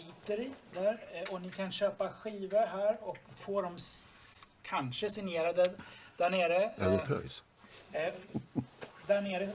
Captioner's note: laugh